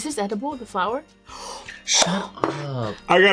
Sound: gasps

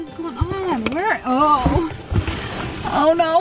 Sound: groans

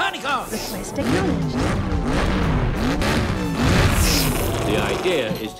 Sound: engine revs loudly

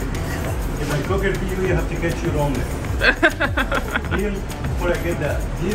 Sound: laughs

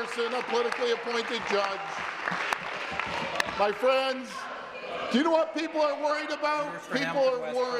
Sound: applause

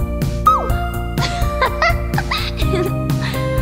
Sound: giggles

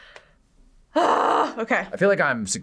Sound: grunts

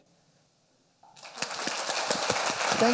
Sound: applause

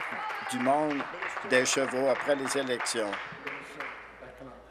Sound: applause

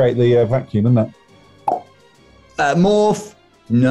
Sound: cheeks pop

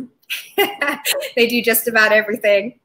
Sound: both laughing

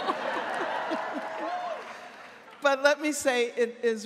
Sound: laughs; audience cheering

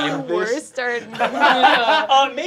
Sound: laughter

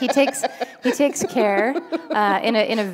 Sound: laughter

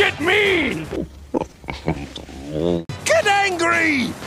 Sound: speaking alien language

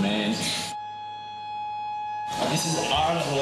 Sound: siren

